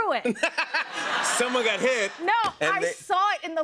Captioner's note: laughter